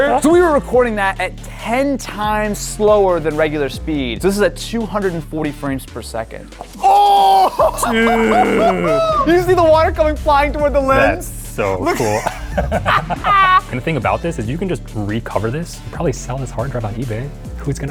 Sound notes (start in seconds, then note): 6.8 both cheering; 11.7 laughing loudly